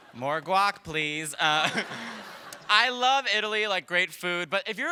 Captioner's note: laughter